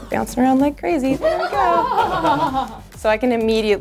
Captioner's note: group laughs